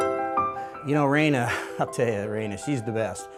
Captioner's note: pleasant music; voiceover